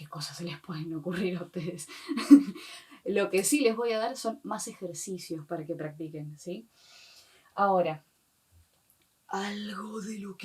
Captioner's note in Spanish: risa